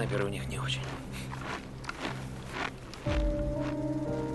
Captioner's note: crunch of snow